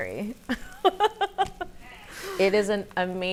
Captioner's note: laughs